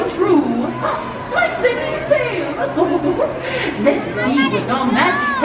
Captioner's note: chuckles